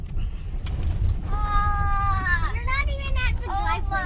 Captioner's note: children in background